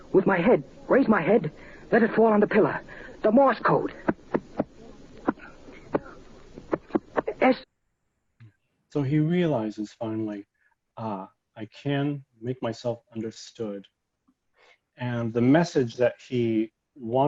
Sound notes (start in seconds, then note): 6.6 head thumping against pillow